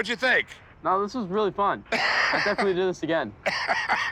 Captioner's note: laughs